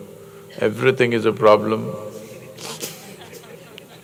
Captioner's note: laughter